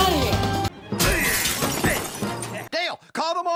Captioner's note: window Breaks